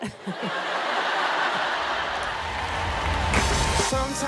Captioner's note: audience laughing